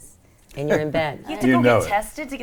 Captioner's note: laughs